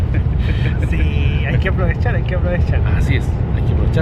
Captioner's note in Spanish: risas; risas